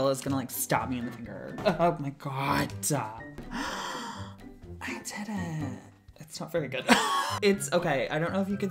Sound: gasps; laugh

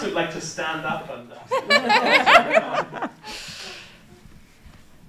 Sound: laughter

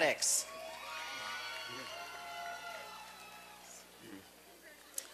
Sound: applause and cheering

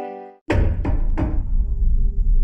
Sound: knocking at the door

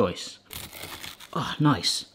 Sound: knife crunching

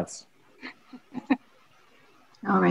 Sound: chuckles

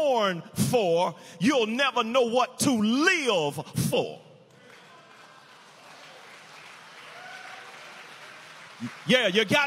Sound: prisoners cheering

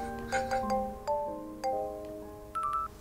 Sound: ringtone

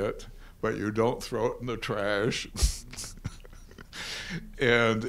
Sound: laughs

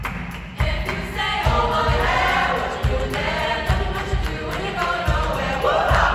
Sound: voices

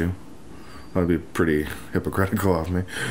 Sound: chuckles

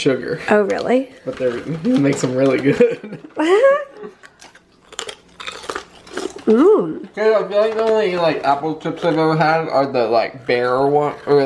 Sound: both laugh

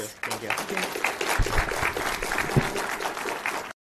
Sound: applause

